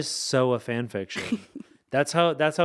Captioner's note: laughing